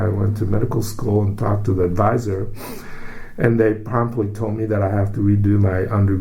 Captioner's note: takes breath